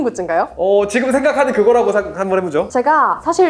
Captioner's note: laughs